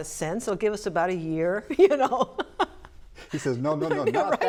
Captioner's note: laughing